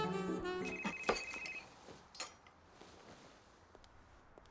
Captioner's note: phone ringing